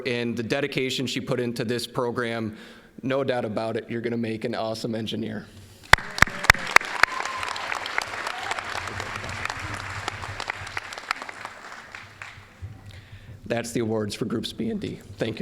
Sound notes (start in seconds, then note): 5.9 applause